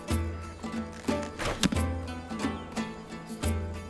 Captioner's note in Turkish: Ok fırlatma sesi